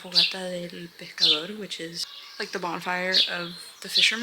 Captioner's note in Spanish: En Ingles